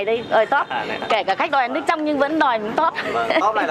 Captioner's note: laugh